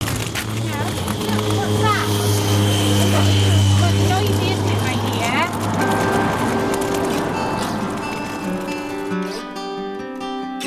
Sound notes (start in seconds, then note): 0.0 traffic noises